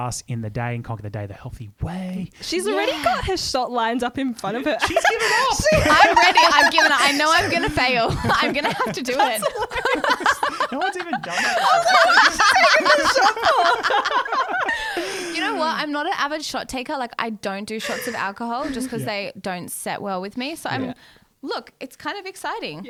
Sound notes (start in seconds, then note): 6.1 laughing together; 9.9 laughing together; 12.9 laughing together